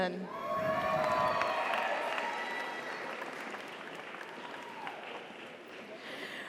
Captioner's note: audience cheers; audience applauds